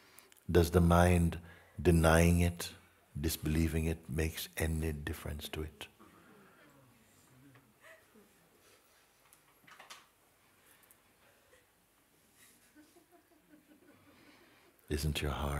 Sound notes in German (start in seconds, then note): 8.0 leises Weinen in der Sangha; 12.2 leises Lachen in der Sangha